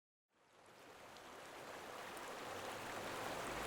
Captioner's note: water rushes